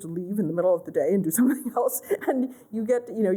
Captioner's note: laughter